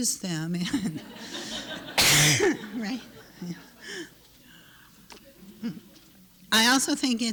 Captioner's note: laughter